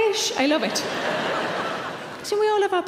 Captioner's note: laughing